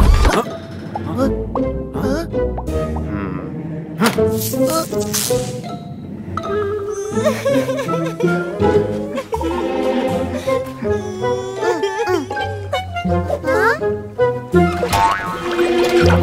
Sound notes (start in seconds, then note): 4.3 sound of electricity; 10.7 crying